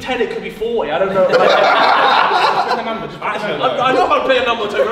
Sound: group laughs

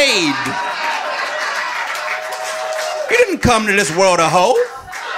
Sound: audience laughing

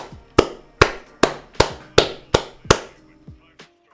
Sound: clapping

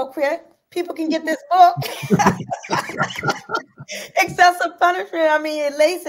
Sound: laughs

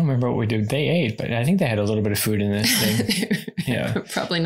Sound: laughs

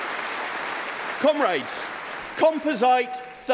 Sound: applause

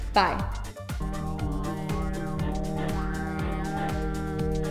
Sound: both ululating

